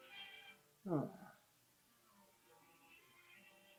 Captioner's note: sighs; sweet sleepy music